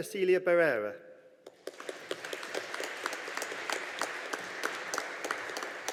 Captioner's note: audience applauding